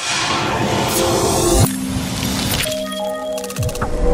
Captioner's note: electronic noises